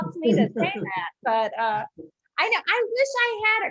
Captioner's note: laughs; chuckles